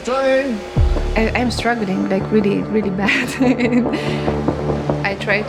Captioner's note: laughs